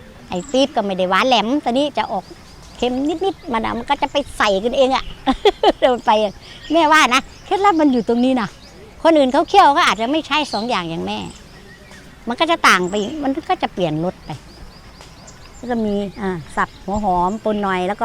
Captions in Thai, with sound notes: น้ำตาลปี๊บก็ไม่ได้หวานแหลม ทีนี้จะออกเค็มนิด ๆ มันน่ะมันก็จะไปใส่กันเองอ่ะ [เสียงหัวเราะ] แม่ว่านะเคล็ดลับมันอยู่ตรงนี้นะ คนอื่นเขาเคี่ยวก็อาจจะไม่ใช้ 2 อย่าง อย่างแม่ มันก็จะต่างไปอีกมันก็จะเปลี่ยนรสไป แล้วก็มีอ่าสับหัวหอมปนหน่อย